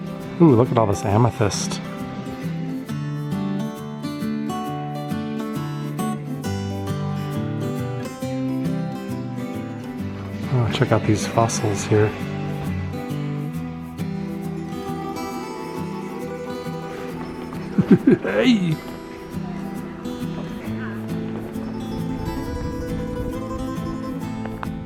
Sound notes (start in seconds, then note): 17.9 funny voice